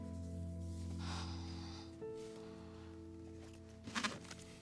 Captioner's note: Cassie sighs